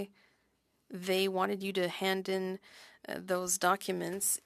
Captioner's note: speaking French